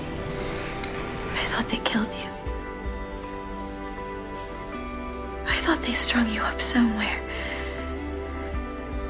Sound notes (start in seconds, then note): 1.5 voiceover